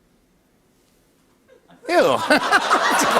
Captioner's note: laughter